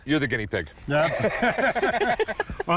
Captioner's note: laughter